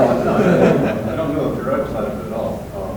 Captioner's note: students laughing